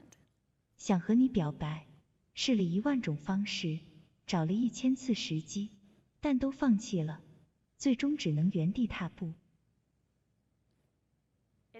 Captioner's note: speak ing chinese